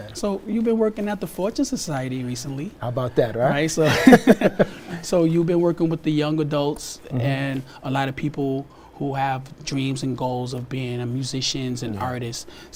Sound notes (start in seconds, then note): 3.6 laughs